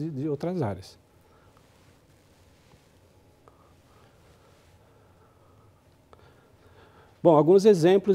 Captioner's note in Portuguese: pausa sonora